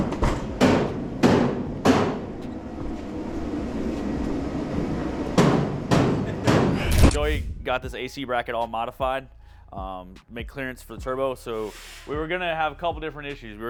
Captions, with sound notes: (ticking) Joey got this AC bracket all modified,